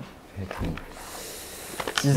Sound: argh

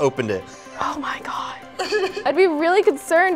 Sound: laughing

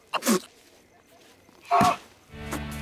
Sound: gasping

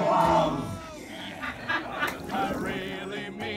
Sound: laughing

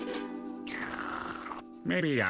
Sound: slurps

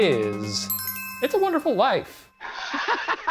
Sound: bell dinging; laughing

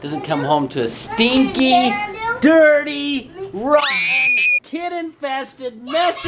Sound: screams

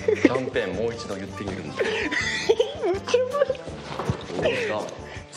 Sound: schoolgirl giggling intensifies

